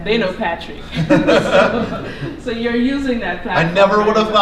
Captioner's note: laughter